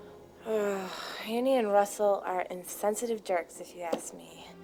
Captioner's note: groans